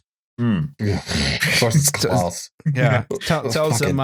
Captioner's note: snorts